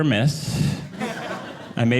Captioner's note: audience laughing